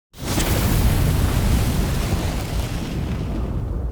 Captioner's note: flames roaring